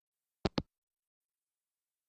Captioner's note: hangup